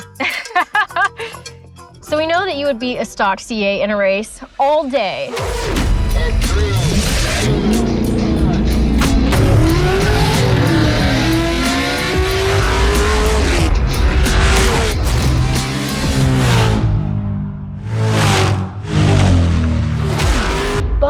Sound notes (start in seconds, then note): 0.0 Emelia laughs; 9.3 engine revving; 16.0 engine roaring